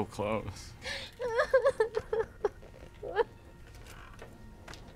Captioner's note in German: Kimber schluchzt